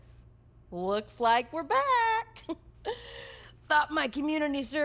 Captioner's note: chuckles